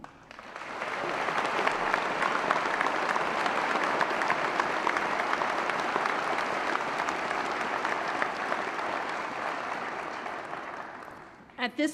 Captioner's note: applause